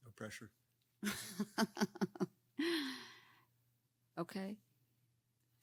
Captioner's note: laughing